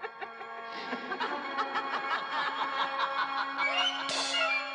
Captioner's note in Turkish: Gülüşmeler